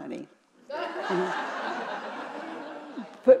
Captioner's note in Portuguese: risos da plateia